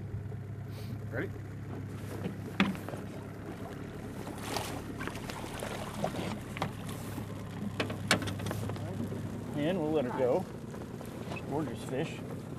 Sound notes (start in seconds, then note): 2.3 fish splashing